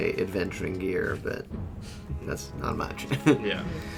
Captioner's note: chuckles